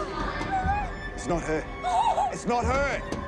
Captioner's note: Jane sobs